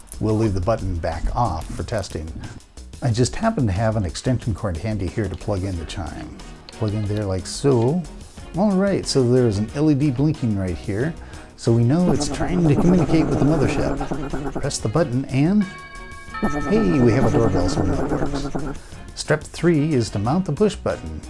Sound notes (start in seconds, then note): 15.6 doorbell sound; 15.7 mother ship whirring sound